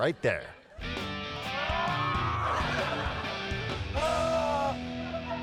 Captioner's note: man grunting